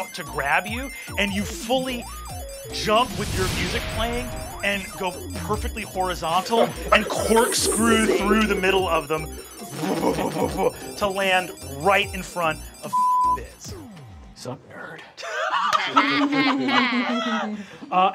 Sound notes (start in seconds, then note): 10.1 blows air; 12.7 beep; 15.2 laughing